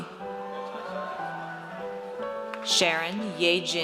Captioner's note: audience cheers